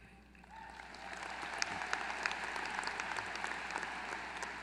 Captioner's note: applause